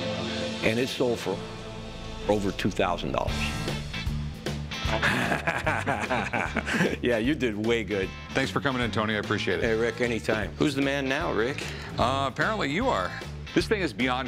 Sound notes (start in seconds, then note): 4.9 laughter